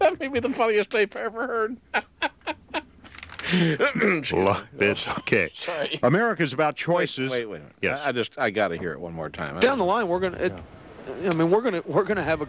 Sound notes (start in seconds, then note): 1.8 laughing; 3.4 harrumphing